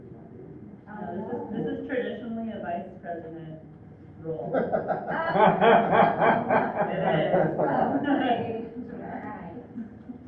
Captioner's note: laughter